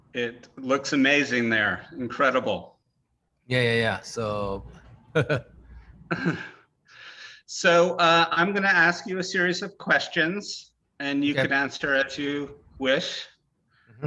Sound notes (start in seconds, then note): 5.1 laughing; 5.1 Takashi laughing